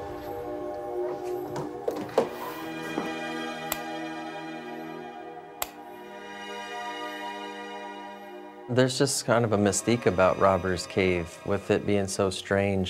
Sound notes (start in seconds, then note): 0.1 soft dramatic music; 3.2 light switch clicks